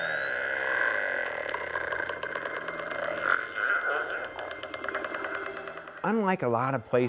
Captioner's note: whale sounds